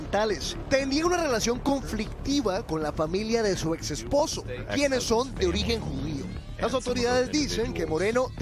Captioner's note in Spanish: hablan en inglés